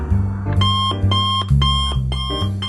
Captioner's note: alarm clock